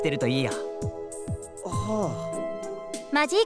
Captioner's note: confused sigh